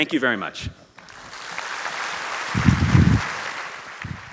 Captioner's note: applause